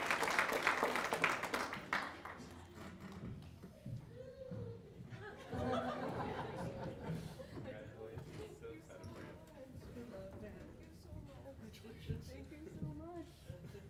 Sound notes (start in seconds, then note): 0.0 applause; 7.1 laughter